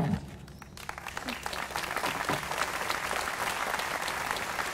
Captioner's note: applause